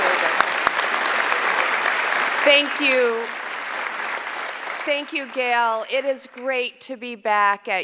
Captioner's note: applause